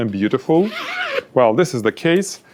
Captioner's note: zips